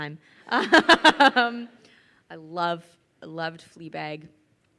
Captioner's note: laughs